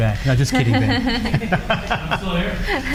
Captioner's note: laughing